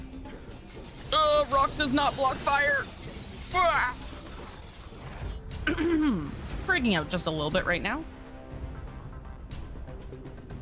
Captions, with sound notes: augh Rock does not block fire bwaa [panic noise] [clears throat] freaking out just a little bit right now